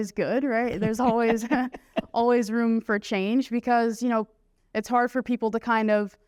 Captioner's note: laughter